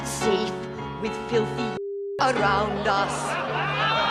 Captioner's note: all laughing